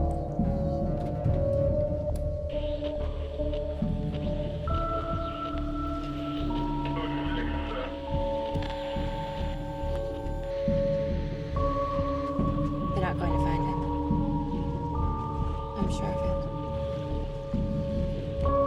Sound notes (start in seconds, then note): 2.9 radio static hissing